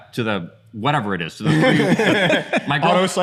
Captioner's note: laughter